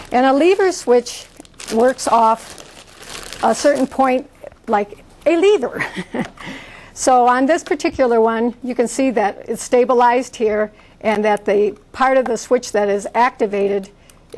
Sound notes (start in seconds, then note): 5.8 chuckles